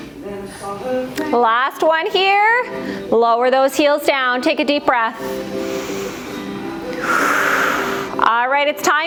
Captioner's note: breath